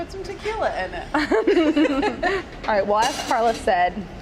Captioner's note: laughing